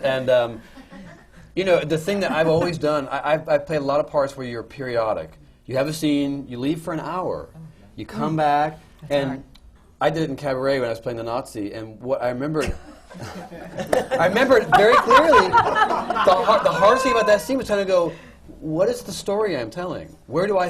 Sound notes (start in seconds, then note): 0.0 laughter; 12.6 laughter